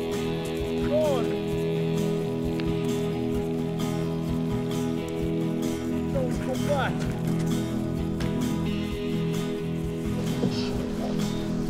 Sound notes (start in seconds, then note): none